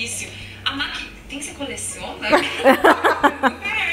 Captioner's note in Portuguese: risos